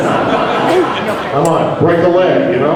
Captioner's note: crowd laughing